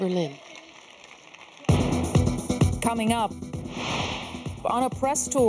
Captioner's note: applause